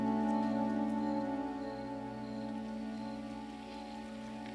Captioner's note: crickets chirping